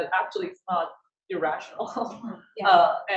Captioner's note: laughs